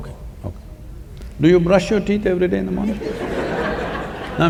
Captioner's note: laughter